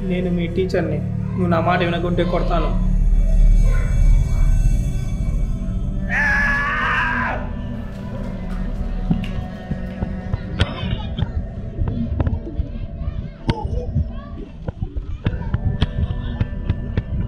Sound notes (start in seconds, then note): 6.1 teacher shouts